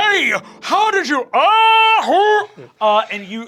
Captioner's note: groaning